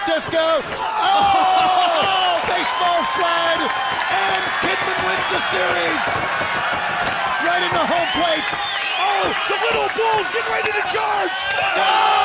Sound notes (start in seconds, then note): 6.5 crowd cheering